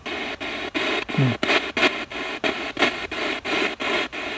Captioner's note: radio noise from the spirit box